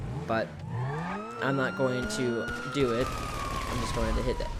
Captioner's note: engine revving; siren wailing